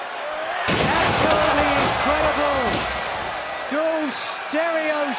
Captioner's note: fans cheering